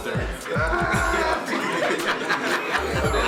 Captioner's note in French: Rires